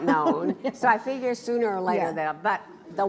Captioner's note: laughs